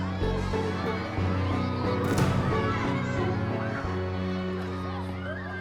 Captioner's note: indistinct chatter, clamoring